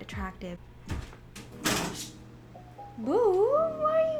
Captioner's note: scratches at the door